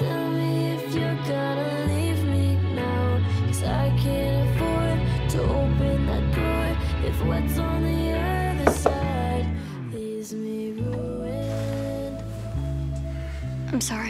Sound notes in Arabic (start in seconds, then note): 9.0 يطرق قبضة على الباب